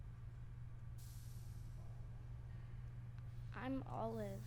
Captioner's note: soft hissing